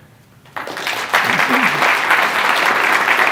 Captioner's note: applause